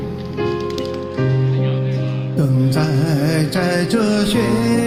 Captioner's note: audience applauding